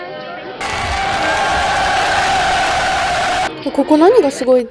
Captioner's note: cheering aggressively